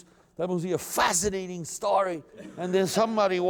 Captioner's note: laughter